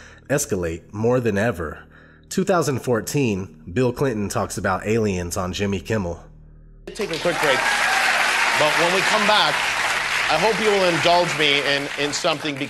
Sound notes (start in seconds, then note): 6.9 audience applause